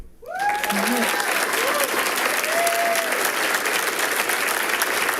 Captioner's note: people cheering and clapping